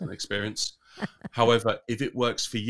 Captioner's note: laughs